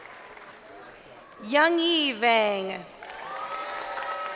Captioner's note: crowd cheering